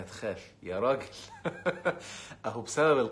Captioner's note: laughs!